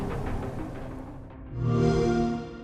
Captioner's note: xbox sound